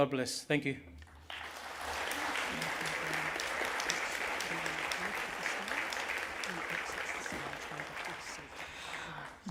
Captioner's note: applause